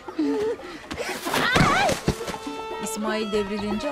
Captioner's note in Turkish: Düşme sesi